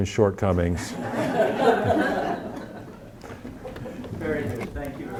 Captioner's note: audience laughing